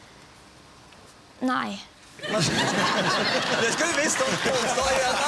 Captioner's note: audience laughs